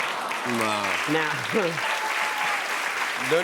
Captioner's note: cheers and applause